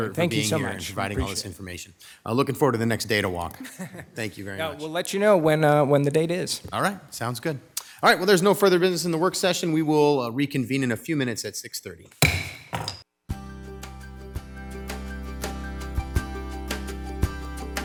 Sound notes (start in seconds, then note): 3.5 laughing; 12.2 gavel thudding; 13.6 upbeat guitar music